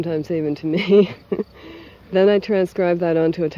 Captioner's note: laughs